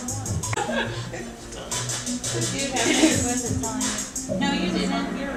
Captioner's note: audience chattering